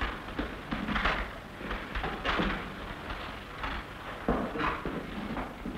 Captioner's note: footstep